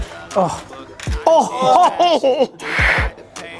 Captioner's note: laughter